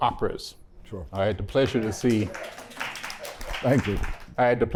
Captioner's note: applause